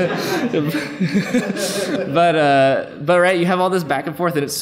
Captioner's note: laughs